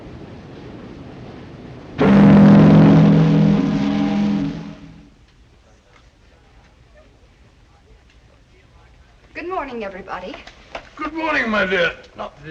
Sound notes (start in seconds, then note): 1.9 ships horn blowing